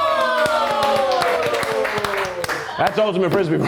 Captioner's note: crew applauds